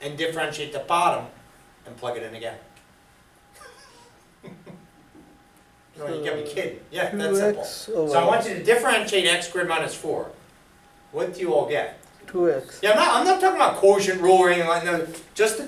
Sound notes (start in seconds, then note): 3.6 laughs; 12.5 voiceover